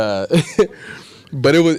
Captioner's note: laughs